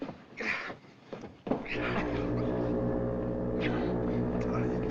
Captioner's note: foghorn Blows